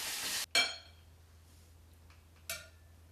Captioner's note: clanking